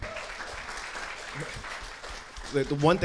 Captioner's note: audience clapping